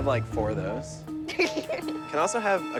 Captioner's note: laughs